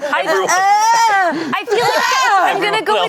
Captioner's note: groans